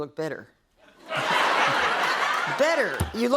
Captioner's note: laughter